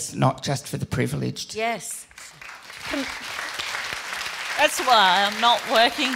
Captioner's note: applause